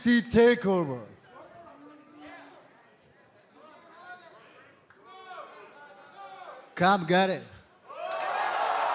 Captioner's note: crowd chatter